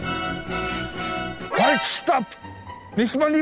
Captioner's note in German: Verzerrte Töne